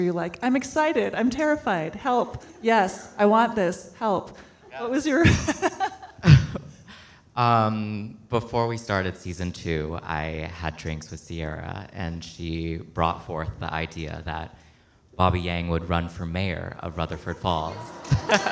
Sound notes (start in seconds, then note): 5.1 laughs; 17.6 audience clapping